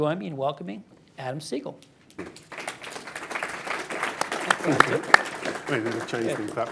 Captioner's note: applause